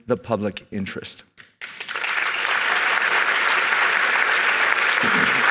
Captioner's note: applause